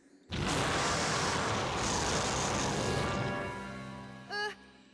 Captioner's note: roars